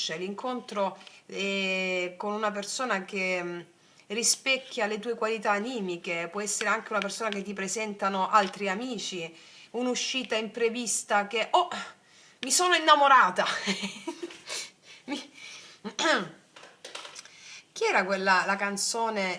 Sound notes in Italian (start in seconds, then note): 13.5 risate; 14.3 sbuffare